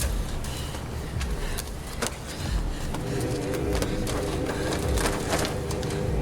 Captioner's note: ominosa de la música; respira fuertemente